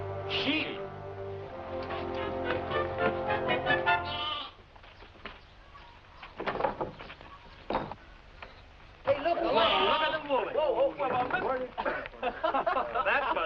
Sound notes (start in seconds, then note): 3.6 bleating; 9.2 cowboys clamoring; 11.6 laughing